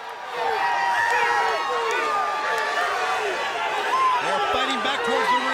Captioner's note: audience cheers and yells